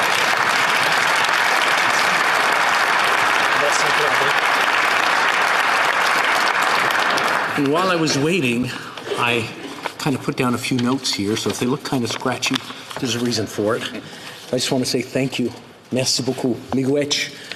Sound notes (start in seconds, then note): 4.1 applause